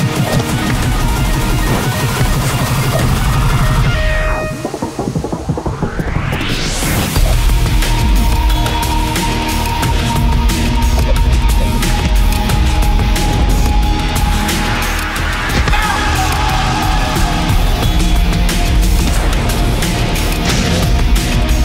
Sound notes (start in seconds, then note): 0.1 dramatic rhythmic music continues; 11.1 air whipping; 15.5 The Angel screams; 15.6 thudding